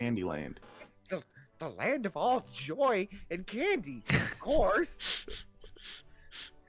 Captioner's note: snickers